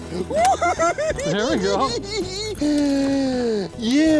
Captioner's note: laughing